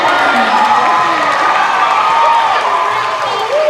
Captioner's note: cheering